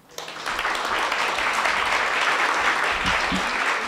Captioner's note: applauding